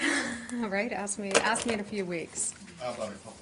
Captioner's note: laughter